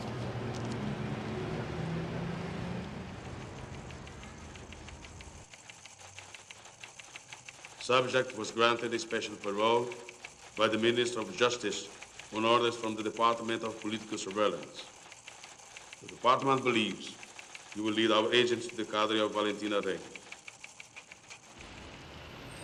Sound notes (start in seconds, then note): 4.7 typewriter keys clacking